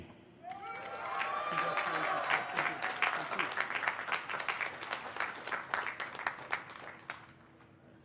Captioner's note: cheers and applause